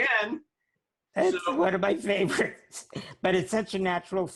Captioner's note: laughs